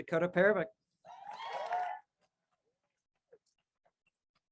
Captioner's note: crowd cheers